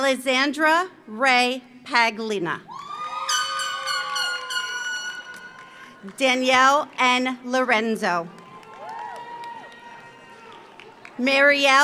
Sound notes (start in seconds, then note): 2.7 audience cheers; 3.3 horn blares; 8.2 audience applauds; 8.3 audience cheers